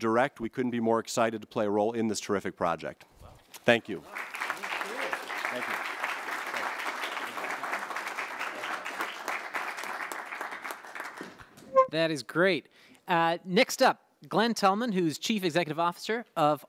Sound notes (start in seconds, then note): 6.2 applause